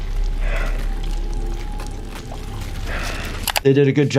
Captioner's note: heavy breathing